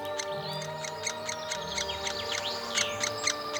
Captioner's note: woodpecker chirping